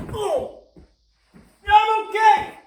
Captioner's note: Chuck groans as he falls to floor